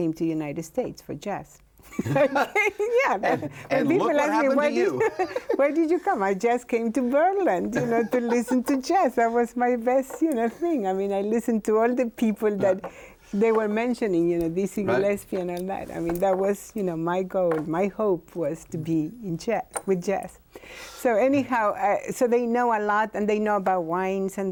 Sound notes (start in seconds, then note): 1.8 both laughing; 4.8 both laughing; 7.6 laughing